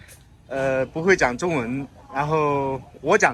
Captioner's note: Mandarin